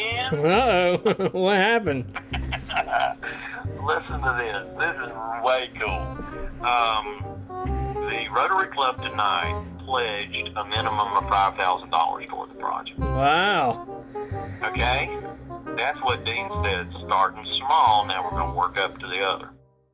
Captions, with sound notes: Oh. What happened? [laughing] Listen to this. This is way cool. The Rotary Club tonight pledged a minimum of $5,000 toward the project. Wow. Okay? That's what Dean said, starting small, now we're going to work up to the other.